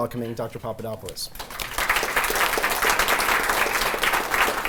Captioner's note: applause